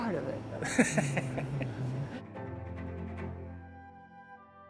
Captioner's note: laughing; relaxing music